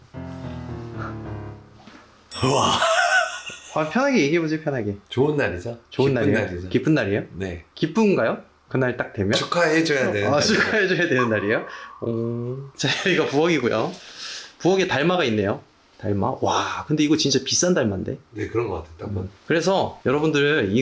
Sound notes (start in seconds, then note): 2.3 laughing out loud